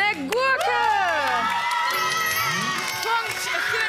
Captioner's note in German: Jubel